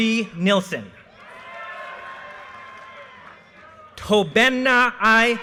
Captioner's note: audience cheers and applause